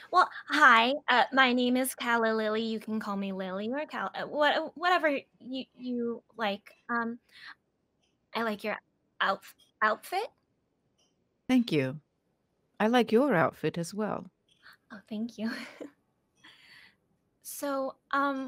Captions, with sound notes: - Well, hi, my name is Calla Lilly. You can Calla or Lily or whatever you, you like. I like your outfit. - Thank you. I like your outfit as well. - Oh, thank you. (chuckling) So